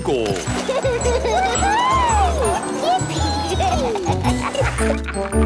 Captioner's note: giggling; laughing